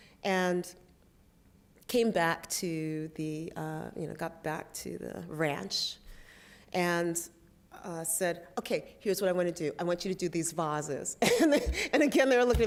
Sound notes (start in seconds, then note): 11.3 laughs